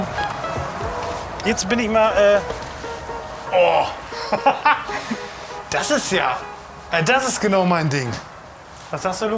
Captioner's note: laughs